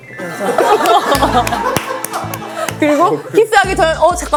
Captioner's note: haha